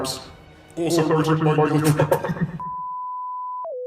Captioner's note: laughs at their own stupid bit